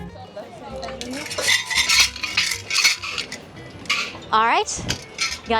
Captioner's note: shaking sounds